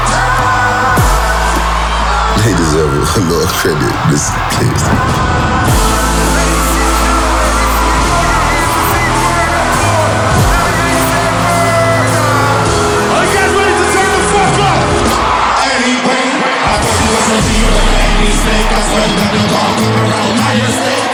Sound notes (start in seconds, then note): 2.3 laughs